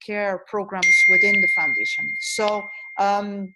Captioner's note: beep